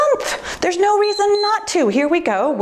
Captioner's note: timer beeps